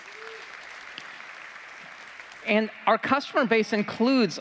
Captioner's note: applause